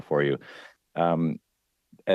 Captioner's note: speaking French